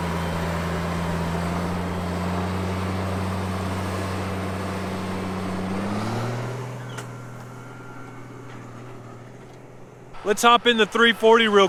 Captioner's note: tractor sound